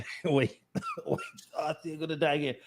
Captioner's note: coughs